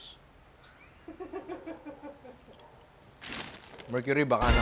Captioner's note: laughs